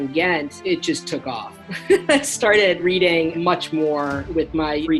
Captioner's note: laughing